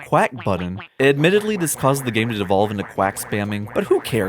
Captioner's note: multiple quacking; quacking; multiple quacking